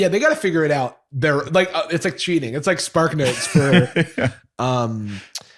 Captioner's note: laughter